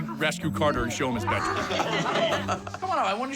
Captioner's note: laughter